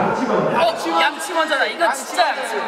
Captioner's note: all shout out brush first